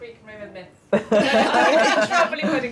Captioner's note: laughing